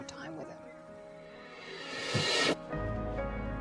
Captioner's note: time machine sound effect